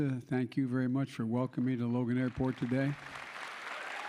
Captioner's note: applause